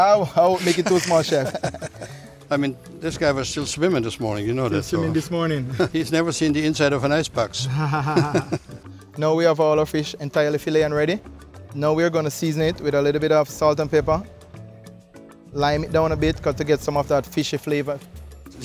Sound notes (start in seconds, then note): 1.8 laughs; 5.5 laughs; 7.5 both laugh